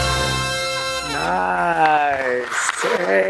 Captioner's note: clapping